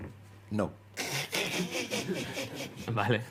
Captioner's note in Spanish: Risas